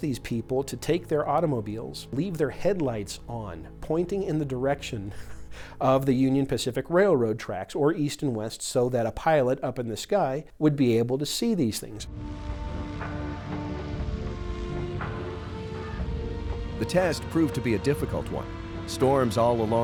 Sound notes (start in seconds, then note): 12.0 tense music; 12.1 airplane engine roaring